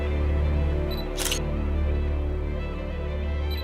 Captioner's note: camera shutter sound